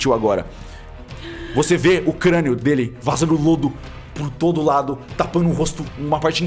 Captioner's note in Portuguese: Suspiro